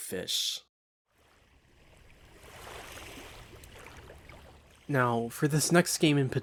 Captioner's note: realistic river waves ambience